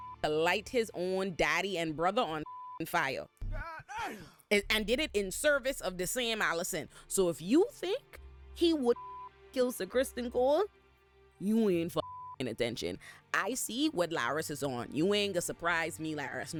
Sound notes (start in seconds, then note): 2.4 beep